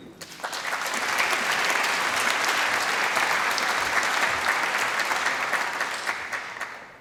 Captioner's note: applause